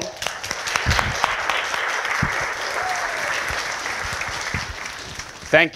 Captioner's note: applause